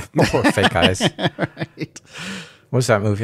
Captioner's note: laughing